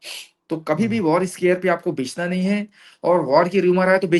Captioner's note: nasal voice